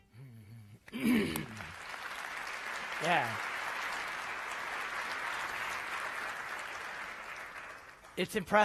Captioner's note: applause